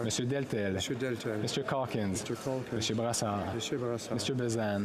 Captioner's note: speaking French